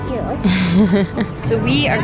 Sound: chuckles

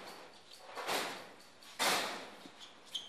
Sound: clanking

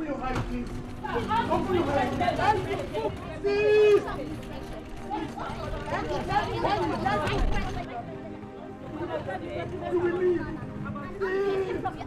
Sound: distinct chatter

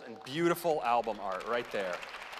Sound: applause

